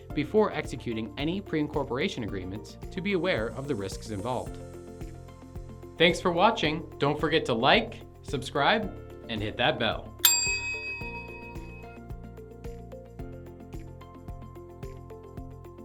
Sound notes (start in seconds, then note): 10.2 bell dings; 12.5 gentle vibrant music